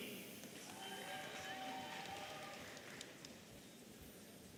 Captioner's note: audience cheering